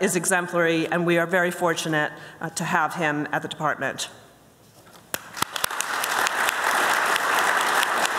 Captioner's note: applause